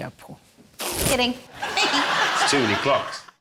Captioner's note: balloon farts